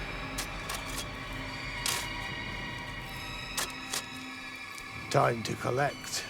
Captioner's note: dramatic music; shovel rasping; eerie music; shovel continues rasping